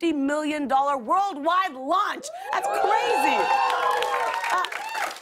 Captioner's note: cheers and applause